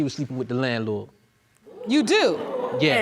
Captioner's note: audience exclaiming